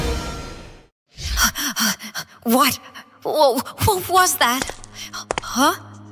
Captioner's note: panting